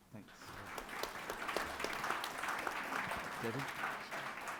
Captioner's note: people applauding